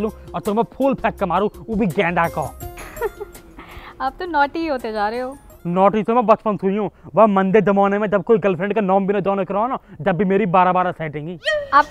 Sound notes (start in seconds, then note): 2.7 chuckles